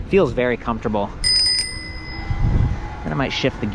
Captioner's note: bell dings